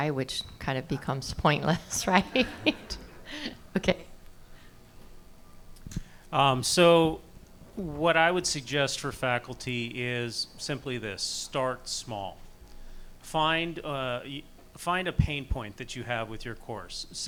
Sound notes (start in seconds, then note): 1.9 audience laughing